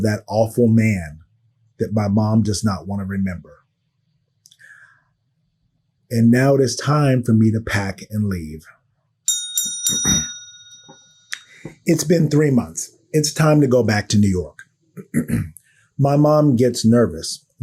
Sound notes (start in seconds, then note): 9.2 bell ringing